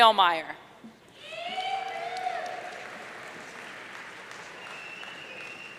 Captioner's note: audience cheering